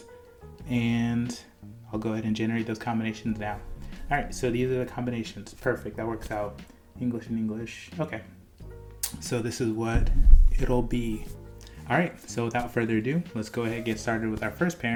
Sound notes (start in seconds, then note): 10.0 destroying mic